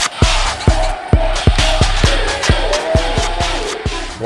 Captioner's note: crowd cheering